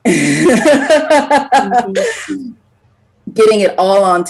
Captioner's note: laughs